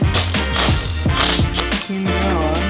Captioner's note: banging; power tool revs